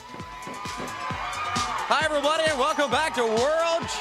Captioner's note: crowd cheering